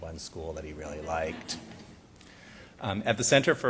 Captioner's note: audience laughs